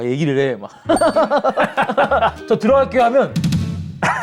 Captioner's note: laughing excitedly